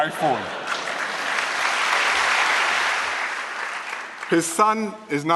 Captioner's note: laughter and applause